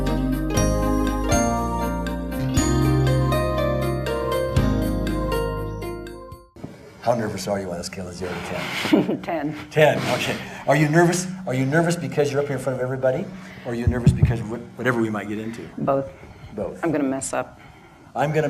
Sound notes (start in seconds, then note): 0.0 calming electronic music; 8.7 laughs